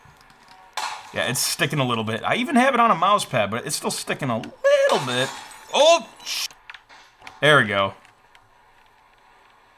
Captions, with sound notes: Yeah. It's sticking a little bit. I even have it on a mouse pad, but it's still sticking a little bit. (glass shattering) Oh there we go.